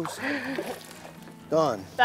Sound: laughs

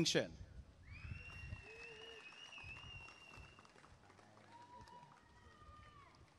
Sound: applause and cheering

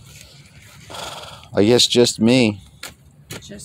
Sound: sigh

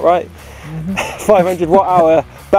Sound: laughs

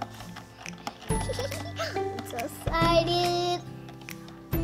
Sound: giggles

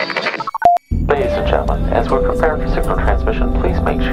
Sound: radio voice 1

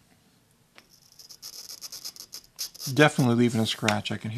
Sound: glass scraping

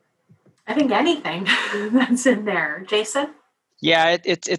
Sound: laugh

